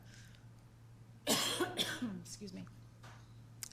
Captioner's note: coughing